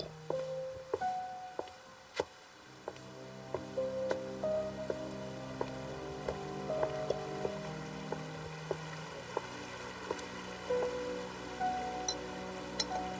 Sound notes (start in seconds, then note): 4.7 water flowing